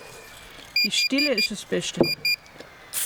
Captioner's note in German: Piepsen